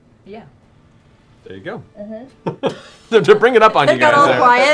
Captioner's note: laughs